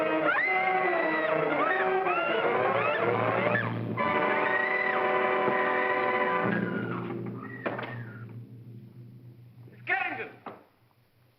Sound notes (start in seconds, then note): 0.0 sinister music; 0.2 Ann screaming; 6.9 wall closes